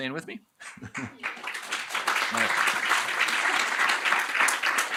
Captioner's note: applause